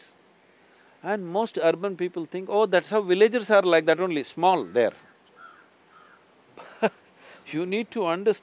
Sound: laughs

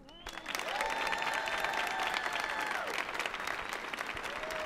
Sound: audience applauding

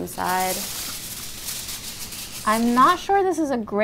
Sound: foil crinkles

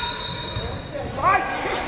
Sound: whistle blows

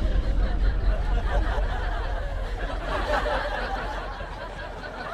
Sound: all laughs

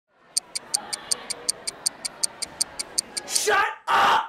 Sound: bomb ticks

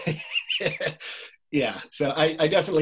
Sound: laughs

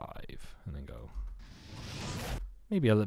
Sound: fireball whooshing

